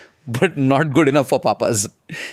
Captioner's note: laughs